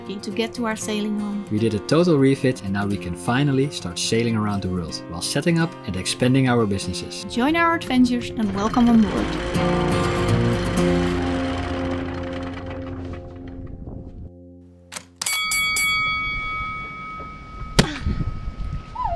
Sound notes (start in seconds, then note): 15.2 bell ringing; 17.5 punch